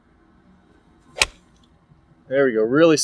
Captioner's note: club smacks ball